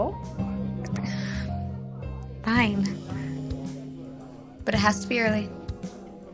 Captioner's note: sighs